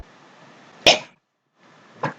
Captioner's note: cough